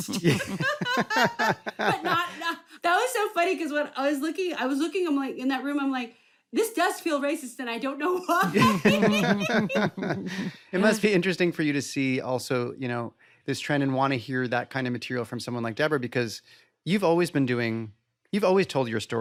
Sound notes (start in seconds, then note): 0.0 laughter; 8.3 laughing